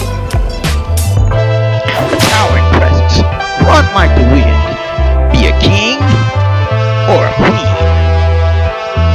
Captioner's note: whip sound and music still playing